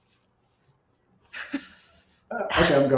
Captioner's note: laughs